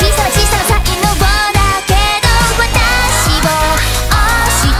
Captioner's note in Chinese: フッフー！